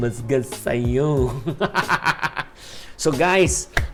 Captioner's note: laughs